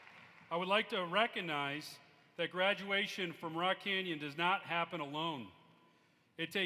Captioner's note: applause